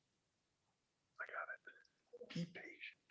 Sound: whispers

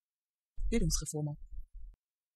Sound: fast Pronunciation

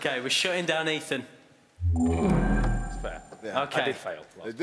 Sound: electronic tones

